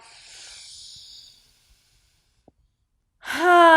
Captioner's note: sighs loudly